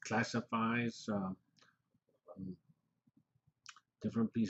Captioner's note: pause